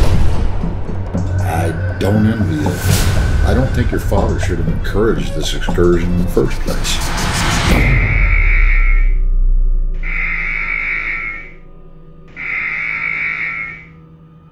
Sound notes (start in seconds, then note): 7.9 warning buzzer blaring